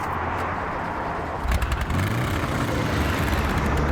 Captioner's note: engine revving